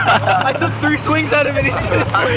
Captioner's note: laughter